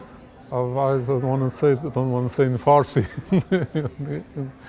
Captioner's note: laughs